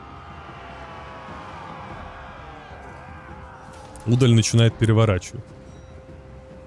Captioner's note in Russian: крик